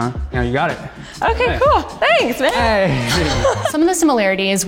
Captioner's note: laughs